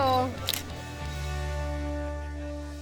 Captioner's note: camera shutter clicks